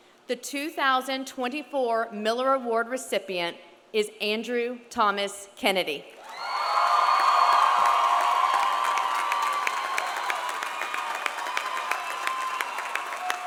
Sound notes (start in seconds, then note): 6.2 audience applauding; 6.2 audience cheering